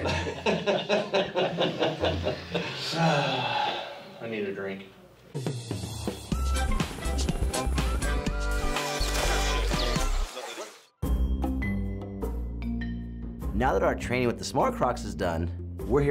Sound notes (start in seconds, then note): 0.0 laughing; 2.4 sighing